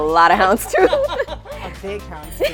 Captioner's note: laughs